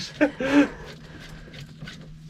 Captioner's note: laughing